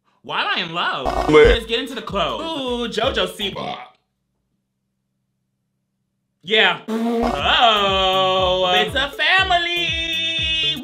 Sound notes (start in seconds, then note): 6.9 blows raspberry; 7.2 burps